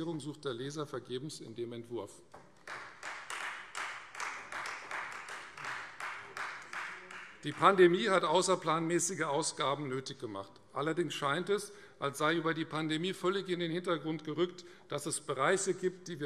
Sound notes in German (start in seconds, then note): 2.4 Beifall Freie Demokraten